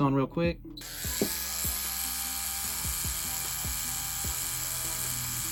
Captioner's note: tattoo machine motor buzzing